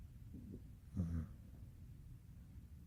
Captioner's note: snore